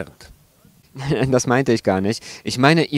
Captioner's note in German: lacht